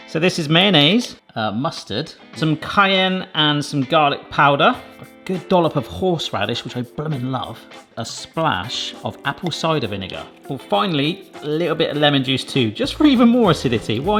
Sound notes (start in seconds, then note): none